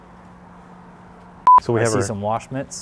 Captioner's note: beeping